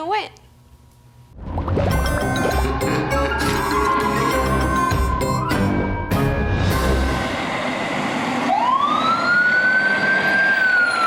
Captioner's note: spooky sounds & siren